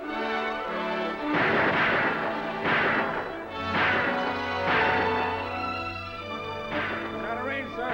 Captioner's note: gunshots